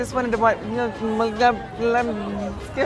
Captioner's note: mumbling